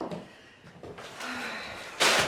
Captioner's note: paper crinkling